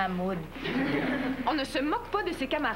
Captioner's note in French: Rires